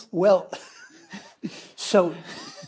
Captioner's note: all chuckling